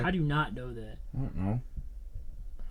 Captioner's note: laughs